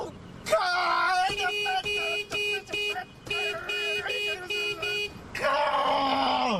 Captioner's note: car horn honking